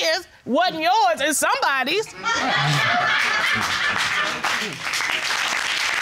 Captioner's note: audience laughing, applauding